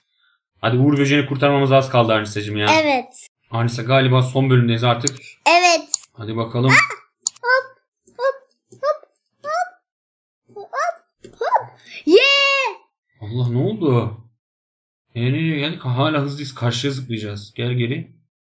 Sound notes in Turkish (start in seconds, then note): 5.8 bağırma